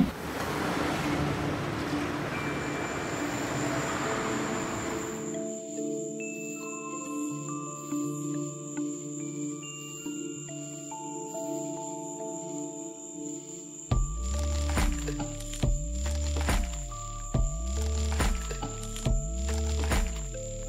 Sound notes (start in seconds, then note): 0.0 traffic humming; 4.0 mysterious music; 8.3 crickets chirping